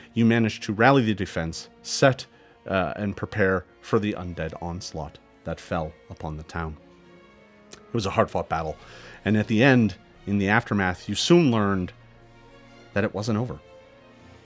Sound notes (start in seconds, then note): none